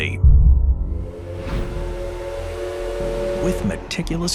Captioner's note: train whistles